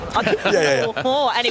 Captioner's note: laughing